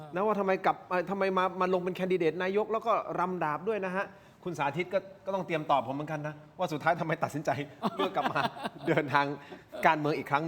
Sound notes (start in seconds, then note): 7.8 laughs